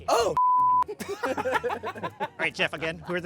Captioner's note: laughing